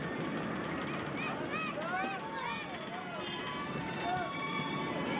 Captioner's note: children yelling